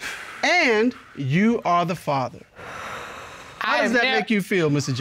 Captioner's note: breathes deeply